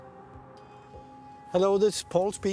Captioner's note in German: englisch